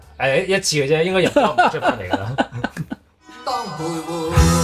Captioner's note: haha